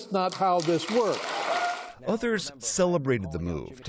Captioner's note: cheering